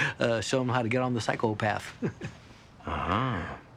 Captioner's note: chuckling